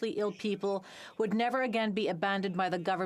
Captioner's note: speaking French